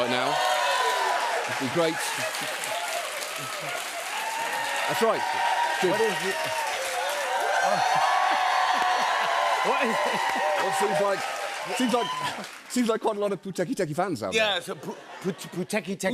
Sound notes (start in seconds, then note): 0.1 cheers and applause; 3.5 laughs; 7.1 cheering increases